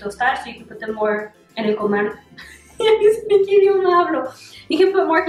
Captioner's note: Spanglish